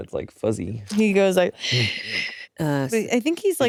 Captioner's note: hisses